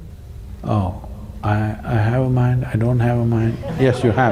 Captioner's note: laughter